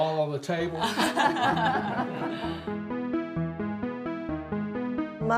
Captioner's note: gentle music; laughing